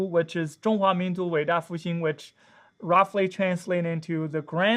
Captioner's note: speaks Chinese